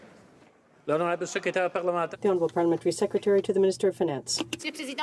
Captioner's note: some Applause